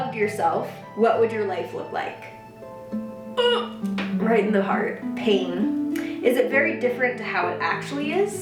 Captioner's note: wheeze